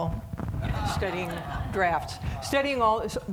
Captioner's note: audience laughing